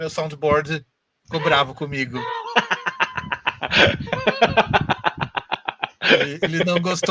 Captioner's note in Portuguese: Risos